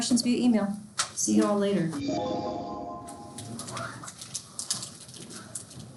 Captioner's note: computer chimes